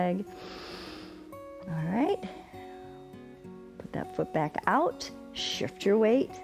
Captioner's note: inhales